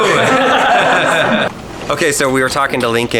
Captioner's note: laughing